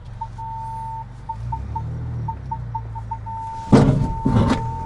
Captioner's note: truck beeping; truck thuds